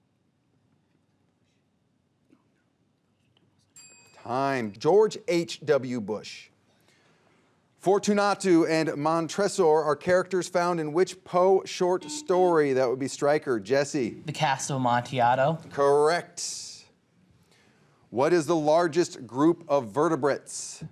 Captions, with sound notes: (bell dinging) Time, George H.W. Bush. Fortunato and Montresor are characters found in which Poe short story? (buzzer beeping) That would be Stryker, Jesse. - "The Cask of Amontillado." - Correct. What is the largest group of vertebrates?